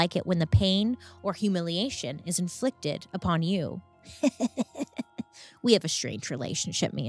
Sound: chuckles

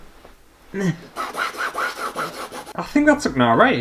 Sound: pen Scratching Canvas

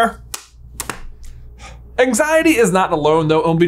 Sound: clap; sighs

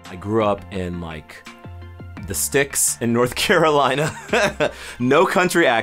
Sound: laughs

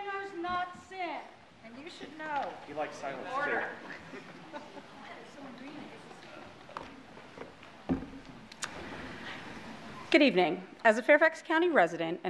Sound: audience member yells out

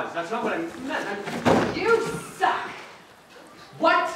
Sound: box falls

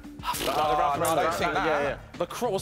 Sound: blows raspberries; chattering

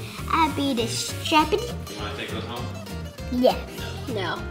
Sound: foreign language

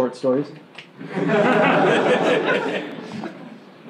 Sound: laughing

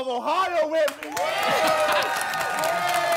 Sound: applause and cheering

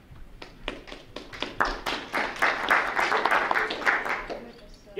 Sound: group applauding

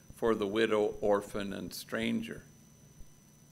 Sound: none

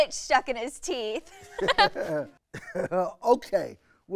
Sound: laughter

